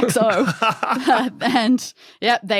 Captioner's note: laughs